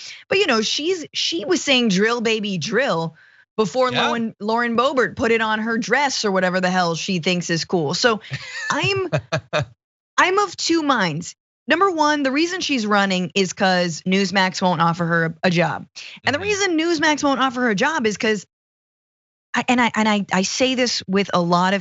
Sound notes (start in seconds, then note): 8.2 laugh